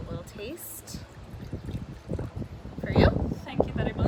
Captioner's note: wine glugging